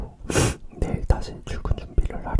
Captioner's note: drinking